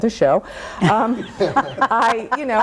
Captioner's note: everyone laughs